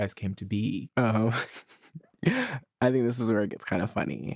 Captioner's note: chuckles